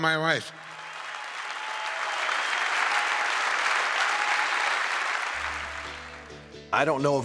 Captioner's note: applause